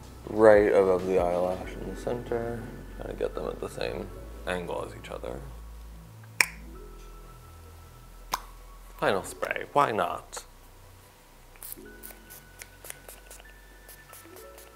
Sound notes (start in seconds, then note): 6.3 tongue pop; 11.8 bottle spraying